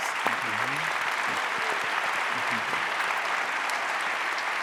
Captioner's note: audience applauding